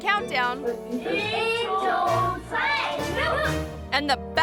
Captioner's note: children speaking in foreign language